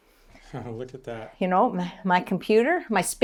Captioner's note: laughs